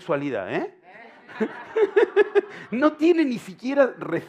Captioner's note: laughter